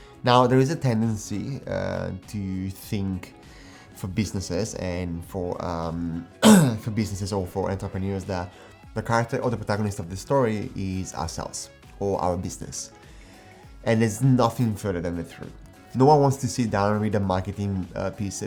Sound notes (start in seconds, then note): 6.4 clears throat